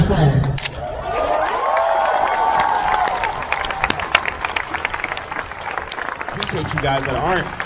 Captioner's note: crowd cheers